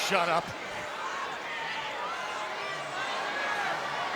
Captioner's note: crowd cheering